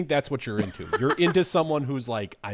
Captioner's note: laughing